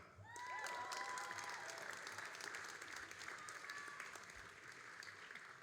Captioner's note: all applauding and cheering